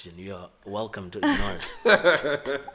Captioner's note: laughs